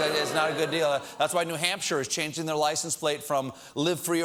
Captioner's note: audience reacts